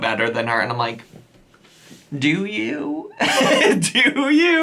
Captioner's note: laughs